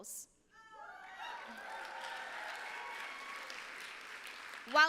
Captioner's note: applause